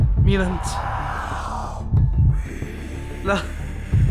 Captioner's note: demonic voice